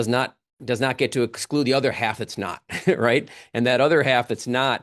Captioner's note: chuckles